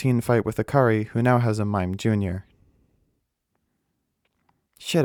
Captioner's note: beat